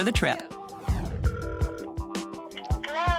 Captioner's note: phone rings